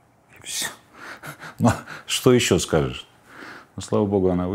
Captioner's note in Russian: смеясь